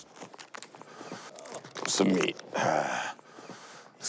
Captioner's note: sighs